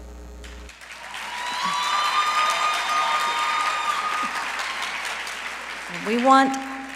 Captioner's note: applause